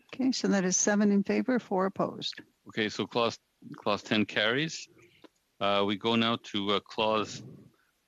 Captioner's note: speaking French